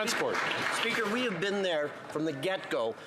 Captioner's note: some Applause